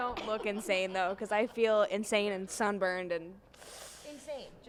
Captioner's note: teeth sucking